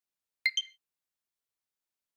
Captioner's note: download ready sound